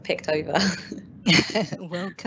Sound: laughing

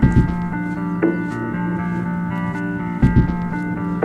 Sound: footsteps

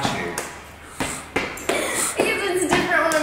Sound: laughing

